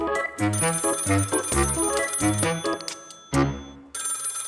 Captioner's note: telephone rings